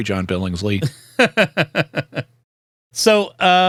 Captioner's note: laughter